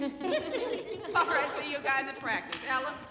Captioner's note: laughter